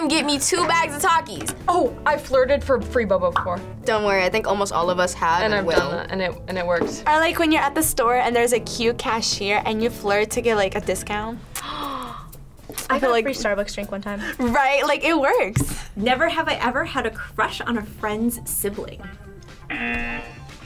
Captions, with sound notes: get me two bags of Takis. - Oh! I flirted for free boba before. - Don't worry. I think almost all of us have and will. - And I've done it, and it worked. - Like when you're at the store and there's a cute cashier and you flirt to get a discount. - (gasps) I got a free Starbucks drink one time. - Right? It works. - Never have I ever had a crush on a friend's sibling. (buzzer)